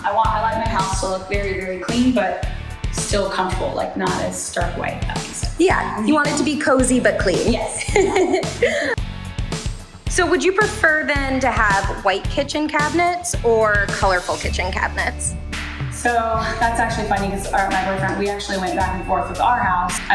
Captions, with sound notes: I like my house to look very, very clean but still comfortable, like not as stark white, if that makes sense. Yeah, you want it to be cozy but clean. Yes! (Both laugh) So would you prefer then to have white kitchen cabinets or colorful kitchen cabinets? So, that's actually funny because my boyfriend, we actually went back and forth with our house.